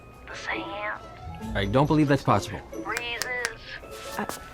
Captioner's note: snaps fingers